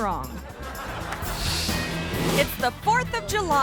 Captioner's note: audience laughing; screen whooshes